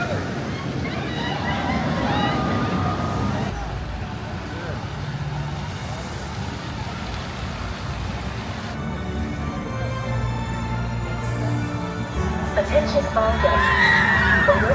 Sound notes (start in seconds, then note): 0.0 people on rollercoaster scream; 6.6 water splashes; 10.2 epic music plays